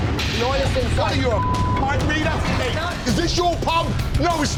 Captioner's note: beep